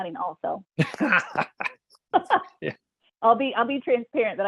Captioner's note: laughter